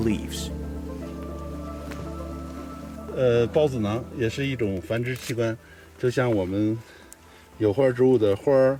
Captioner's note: speaking in foreign language; soft music